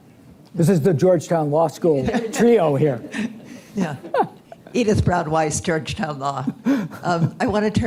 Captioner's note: laughter